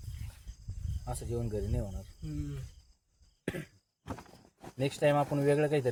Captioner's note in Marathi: घसा साफ करणे